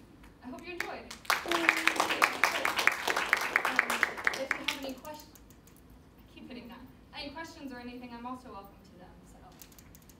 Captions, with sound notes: I hope you enjoyed! [clapping] If you have any quest-[hits projector making noise] I keep hitting that. -any questions or anything I'm also welcome to that.